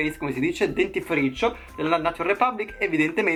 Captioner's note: in Italian